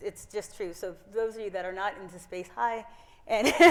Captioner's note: laughs